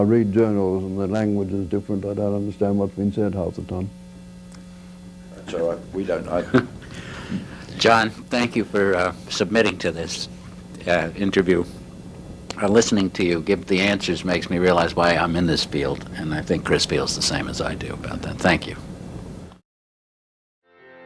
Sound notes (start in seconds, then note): 6.3 laugh